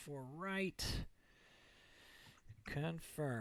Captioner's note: inhale